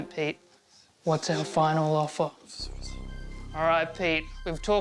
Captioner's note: whispers